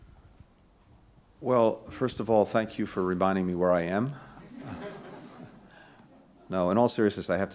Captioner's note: laughter